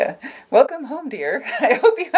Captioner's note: laughs